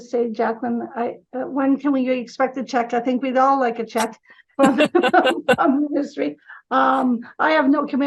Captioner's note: laughing